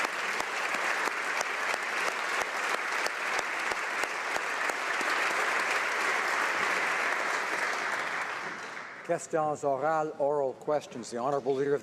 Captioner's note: applause